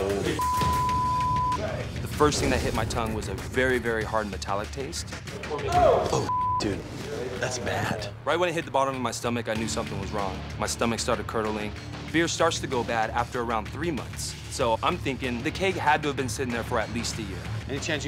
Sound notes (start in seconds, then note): 0.4 beep; 6.2 beep